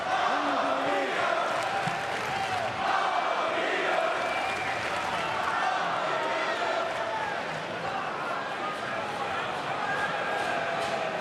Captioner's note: crowd cheering; crowd chatter